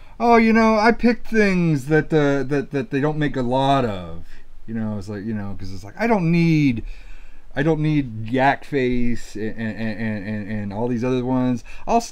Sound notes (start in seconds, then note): none